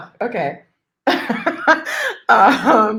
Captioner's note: chuckles